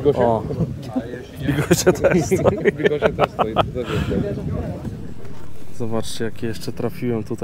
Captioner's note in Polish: śmiech